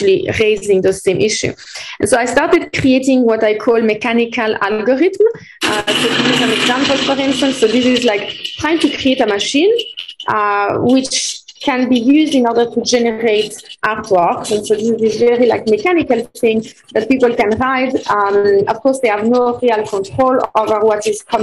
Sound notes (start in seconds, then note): 5.6 mechanical noises